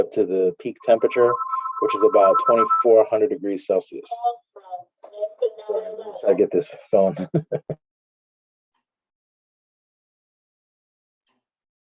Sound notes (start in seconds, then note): 7.0 chuckle